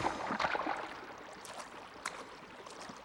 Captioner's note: splashes